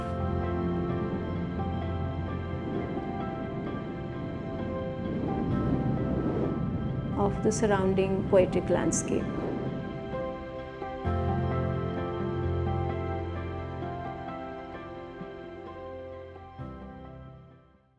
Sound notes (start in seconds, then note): 0.1 music rises; 2.3 wind blares